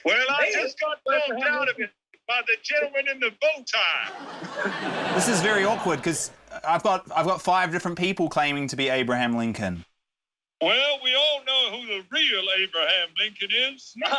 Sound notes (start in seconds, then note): 4.0 laughter